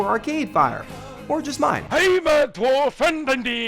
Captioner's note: funny swedish voice